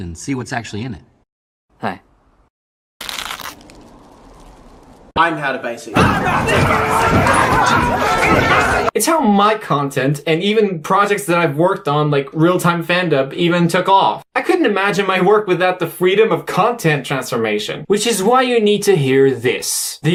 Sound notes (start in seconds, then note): 6.0 fighting and grunting noises